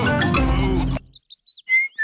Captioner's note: daddy pig groans; whistling